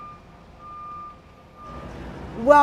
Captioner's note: beeping